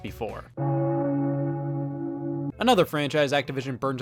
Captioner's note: bell toll